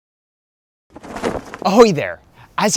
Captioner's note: flag flaps